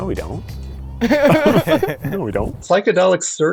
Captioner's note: laughing